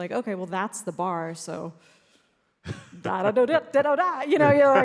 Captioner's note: vocalizes